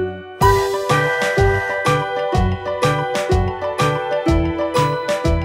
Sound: whistle blowing

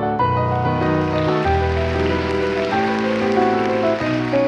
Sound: audience applauds

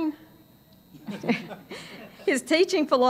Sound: laughter

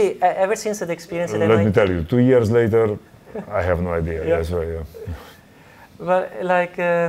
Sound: laughs

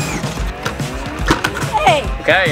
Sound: whirring; plastic crashing

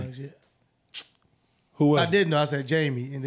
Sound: smacks his teeth

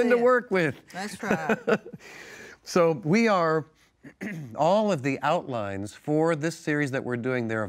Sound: laughs

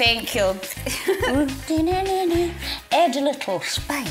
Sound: McGonnagall humming

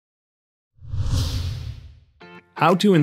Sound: air whooshing; upbeat music

